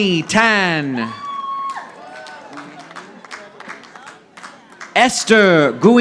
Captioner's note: audience applauding